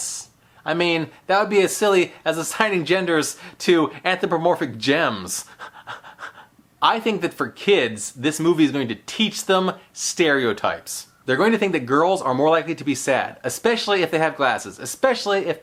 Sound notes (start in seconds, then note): 5.4 heheh